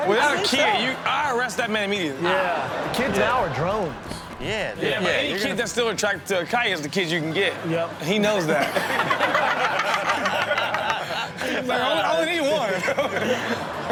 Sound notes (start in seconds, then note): 2.2 audience laughs; 8.4 everyone laughs